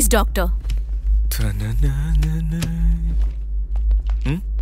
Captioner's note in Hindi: गुनगुनाते हुए